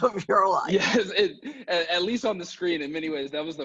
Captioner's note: laughs